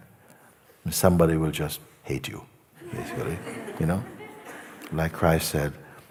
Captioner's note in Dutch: gelach